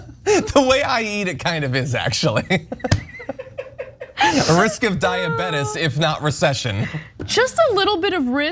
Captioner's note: laugh; laugh